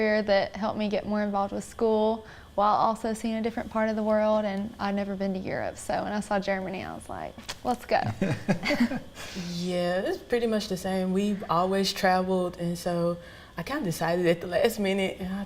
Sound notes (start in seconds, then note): 8.0 laughing